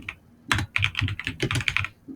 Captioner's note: typing